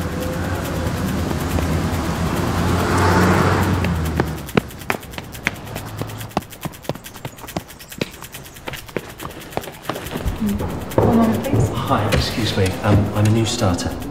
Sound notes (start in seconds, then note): 0.0 sounds of city, cars passing; 4.3 footsteps and running